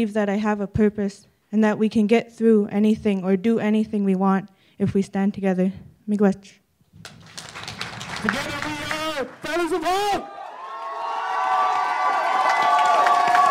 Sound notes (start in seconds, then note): 7.0 audience applauds; 10.5 audience cheers